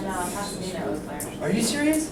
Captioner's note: voiceover